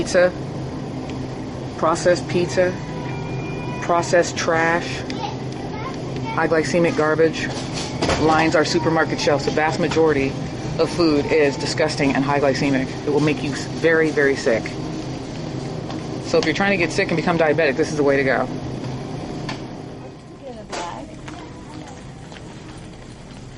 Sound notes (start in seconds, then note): 19.8 background chatter